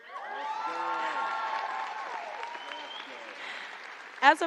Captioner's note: applause